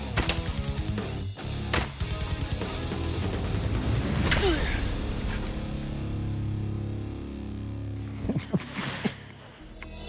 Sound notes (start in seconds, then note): 4.3 grunting; 8.0 chuckling